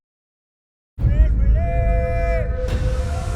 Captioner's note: shouts in Maya